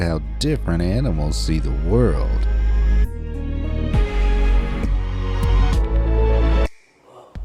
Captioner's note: upbeat music; siren wailing